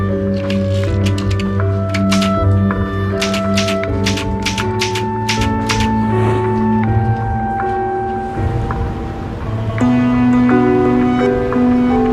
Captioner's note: clacking